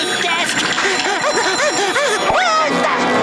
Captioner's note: panting